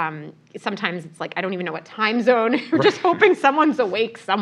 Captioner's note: laugh